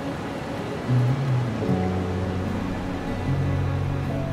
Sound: wind whistling

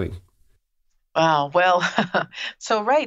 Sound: laughs

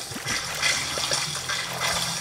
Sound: water splashing

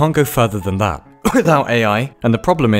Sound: cough

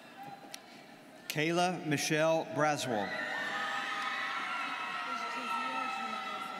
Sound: students cheering

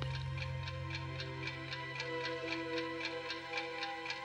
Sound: clock ticks

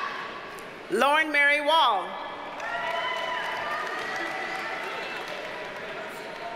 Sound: audience cheers and applauds

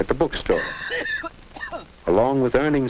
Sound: cough cough

